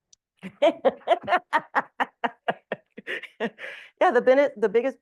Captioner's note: laughing